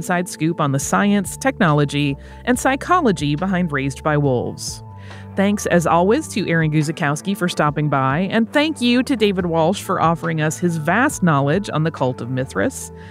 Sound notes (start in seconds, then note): none